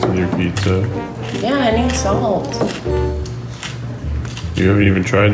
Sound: salt shaker crunching

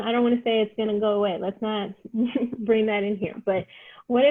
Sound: laughter

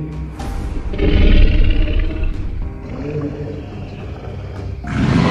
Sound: growling; roaring

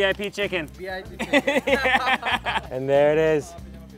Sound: laughs

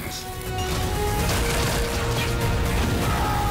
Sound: lasers blasting; officer screaming

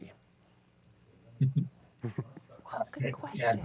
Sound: chuckles

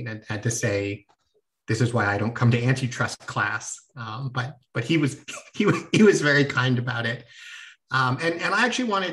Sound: laughter

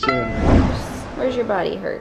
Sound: whooshing

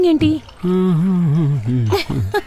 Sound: humming

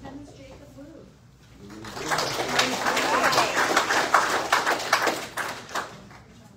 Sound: audience applauds

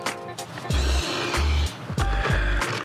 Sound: mark aggressively sniffs the paper

